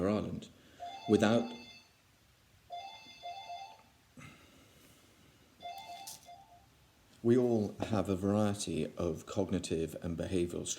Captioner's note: phone rings